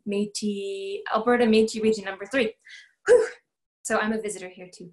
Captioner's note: exhales